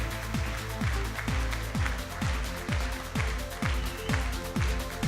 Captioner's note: audience screaming and applauding